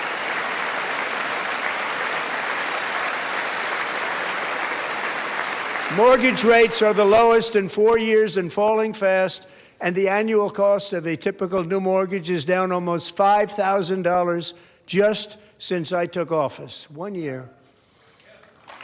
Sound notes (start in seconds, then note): 0.0 applause